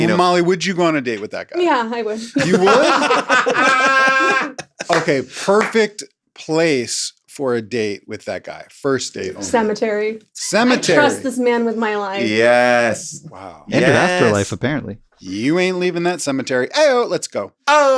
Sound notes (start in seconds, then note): 2.0 everybody laughs